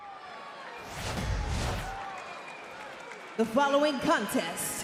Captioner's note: cheers